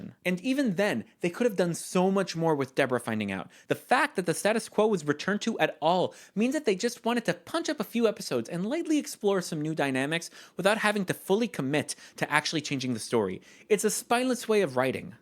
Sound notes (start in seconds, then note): none